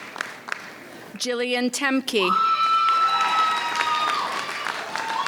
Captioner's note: audience applauds; audience cheers